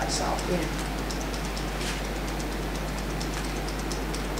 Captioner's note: tapping fingers